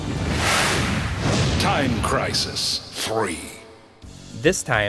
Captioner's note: game audio